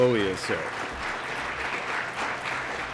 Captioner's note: applause